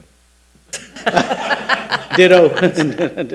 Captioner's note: laughing